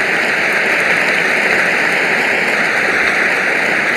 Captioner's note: applause